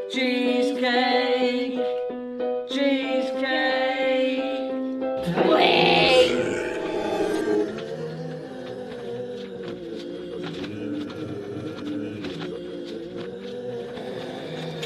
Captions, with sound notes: Cheesecake. Cheesecake. Brains! (ZOMBIES MOANING)